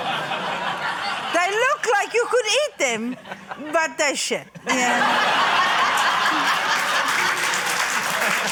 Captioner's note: laughter, applause